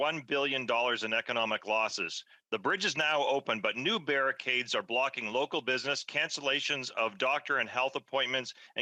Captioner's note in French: voix de l'interprète